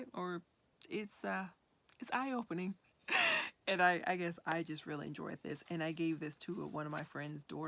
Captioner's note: chuckles